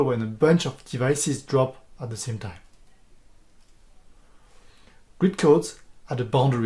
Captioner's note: click